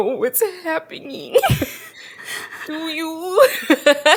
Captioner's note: both laugh